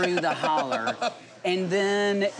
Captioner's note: laughing